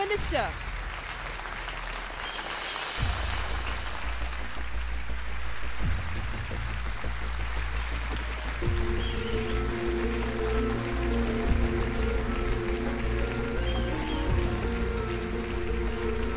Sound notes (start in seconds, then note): 12.1 mouthing; 14.1 applauses